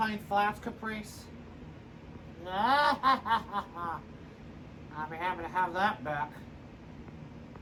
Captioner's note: evil laughing